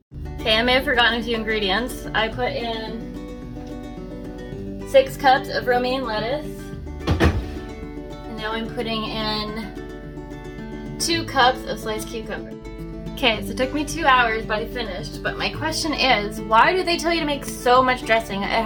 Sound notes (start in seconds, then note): none